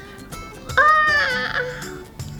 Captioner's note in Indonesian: tertawa; menguap